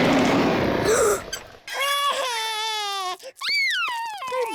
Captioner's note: beeps and roars; gasps and cries